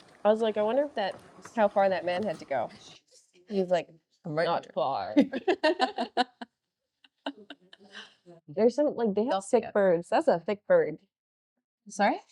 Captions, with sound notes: I was like, "I wonder how far that man had to go." He was like, "I'm right here." Not far. (laughing) There's some, like, they have thick birds. That's a thick bird. Sorry?